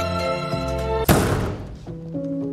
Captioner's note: bang